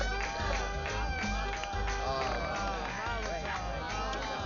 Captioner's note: applauding